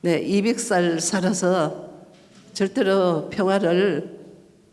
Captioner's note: speaking foreign language